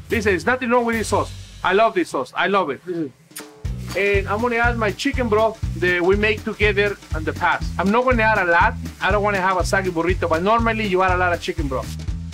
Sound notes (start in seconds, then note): 3.3 kissing